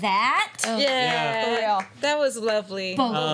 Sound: applause

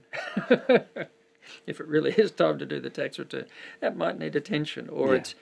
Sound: chuckles

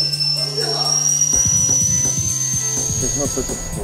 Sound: high pitched noise

